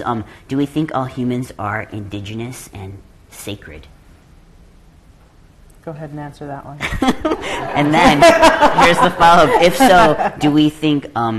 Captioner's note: laughter